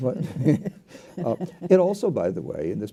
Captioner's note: laughs